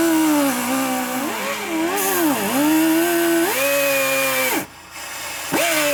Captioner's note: motor Whirring